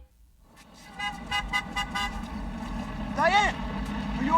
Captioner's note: horn honking